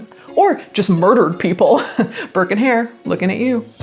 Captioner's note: laughs